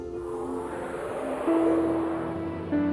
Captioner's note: swish